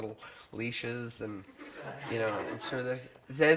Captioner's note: crowd laughs